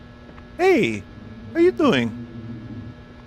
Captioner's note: as Mario